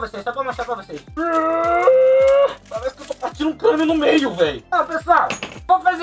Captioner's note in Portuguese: Grunhido